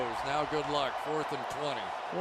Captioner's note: cheering